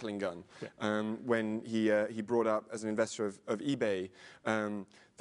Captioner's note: laugh